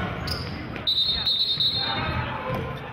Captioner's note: yelling; whistling